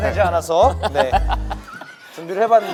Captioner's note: laughing